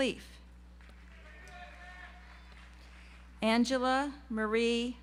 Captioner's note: audience applauds